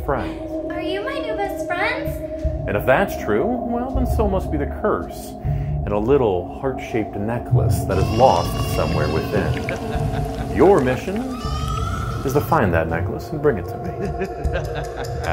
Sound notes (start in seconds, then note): 9.0 baby crying; 9.0 evil laughing; 14.1 evil laughing